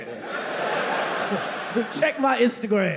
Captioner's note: audience laughing